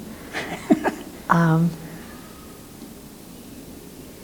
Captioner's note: Philip laughs